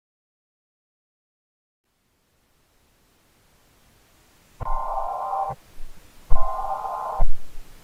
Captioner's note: eas tone